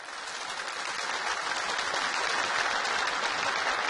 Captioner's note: clapping